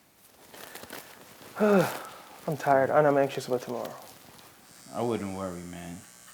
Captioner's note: sighs